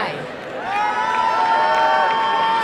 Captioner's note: applause and cheering